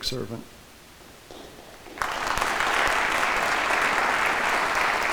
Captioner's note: audience applauding